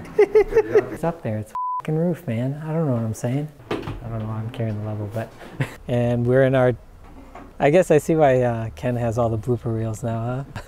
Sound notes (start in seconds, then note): 0.0 laughs; 1.5 beep; 5.5 laughs